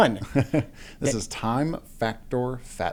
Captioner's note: laughs